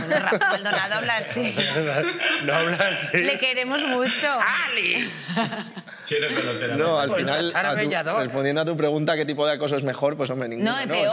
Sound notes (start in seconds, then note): 4.5 changing voice